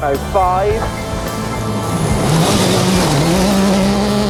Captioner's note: engine revving